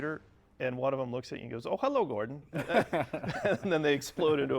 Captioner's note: laughing